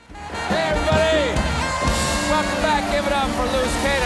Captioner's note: applause